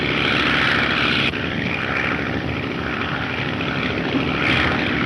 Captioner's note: engine droning